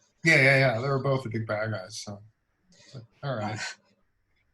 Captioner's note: laughs